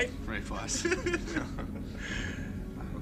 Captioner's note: man laughing